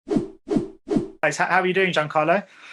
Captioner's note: logo whooshing